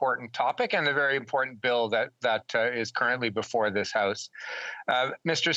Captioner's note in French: voix de l'interprète